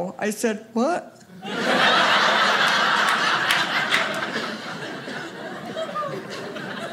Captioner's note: audience laughing